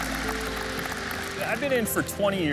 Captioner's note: crowd applauding